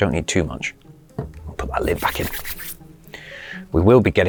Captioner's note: hands rub